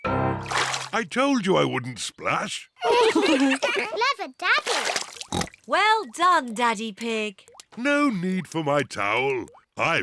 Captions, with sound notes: I told you I wouldn't splash! (ALL LAUGH) Clever Daddy! (OINKS) Well done, Daddy Pig. No need for my towel,